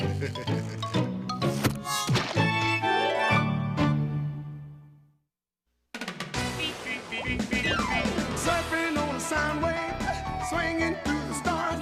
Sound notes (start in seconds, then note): 0.0 laughs; 6.0 upbeat music playing